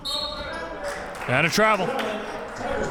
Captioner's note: whistle blows